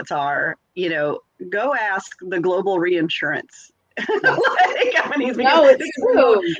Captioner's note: laughs